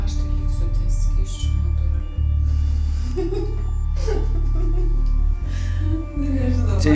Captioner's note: laughter